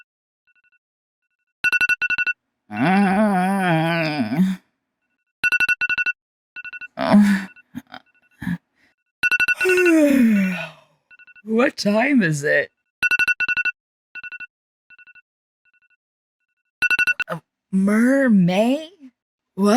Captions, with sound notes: *groan* *yawn* What time is it? Mer-may?